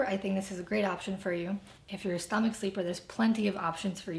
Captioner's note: none